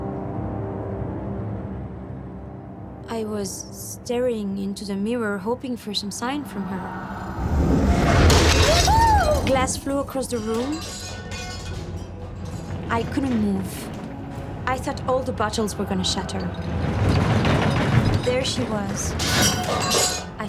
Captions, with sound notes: [tense music] I was staring into the mirror, hoping for some sign from her. [shattering sound] Glass flew across the room. I couldn't move. I thought all the bottles were going to shatter. There she was.